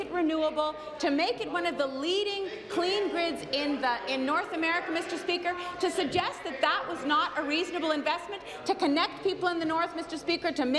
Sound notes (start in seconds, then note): none